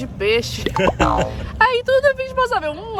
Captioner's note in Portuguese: risos